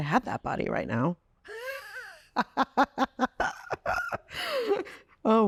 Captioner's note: Chloe laughs